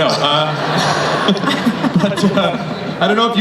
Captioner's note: laughing